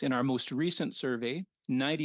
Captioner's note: speaking French